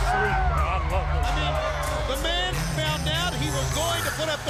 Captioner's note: crowd chatter